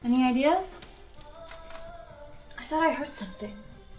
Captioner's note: tree branch creaking